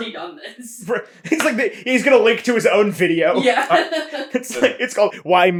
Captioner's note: laughing